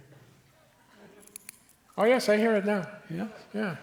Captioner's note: tin crinkling more loudly